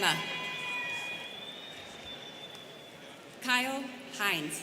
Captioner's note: students cheering